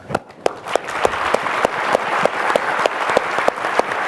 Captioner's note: audience clapping